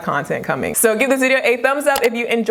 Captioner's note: mouse clicks